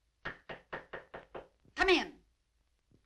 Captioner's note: knocking